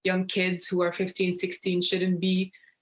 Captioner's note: speaking French